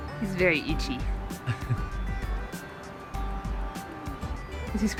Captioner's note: laughs